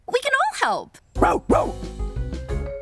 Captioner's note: barks; playful music